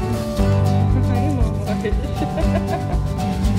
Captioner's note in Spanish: Risas